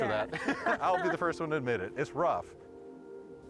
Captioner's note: laughing